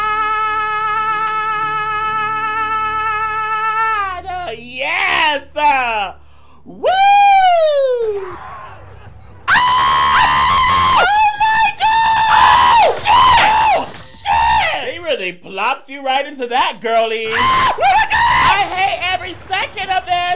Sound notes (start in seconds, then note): 8.2 zombies groaning; 9.4 screaming; 17.3 screaming